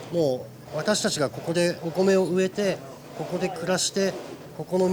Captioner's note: continues speaking Japanese